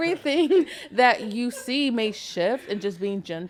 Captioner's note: podcasters laughing